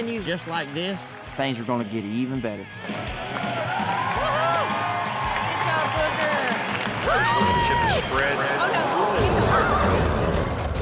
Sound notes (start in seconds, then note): 2.7 crowd cheers; 9.8 thud